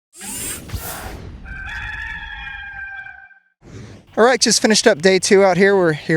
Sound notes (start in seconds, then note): 0.1 logo whooshing; 1.4 cock cackles